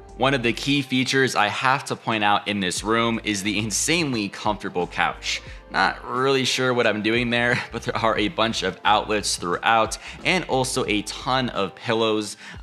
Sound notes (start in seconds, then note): 7.5 chuckling